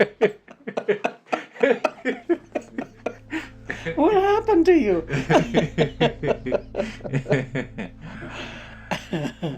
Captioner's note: both laugh